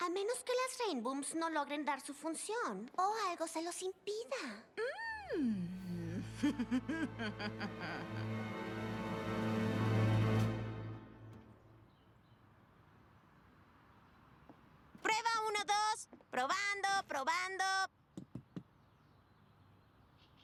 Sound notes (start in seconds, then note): 6.2 nasty laugh; 18.2 tap tap tap